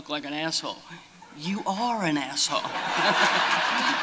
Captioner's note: laughter